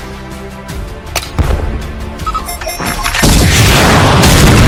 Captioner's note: bazooka fires; bombs banging